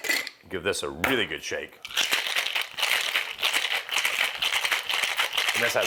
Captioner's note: ice rattling